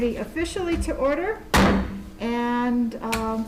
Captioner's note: gavel bangs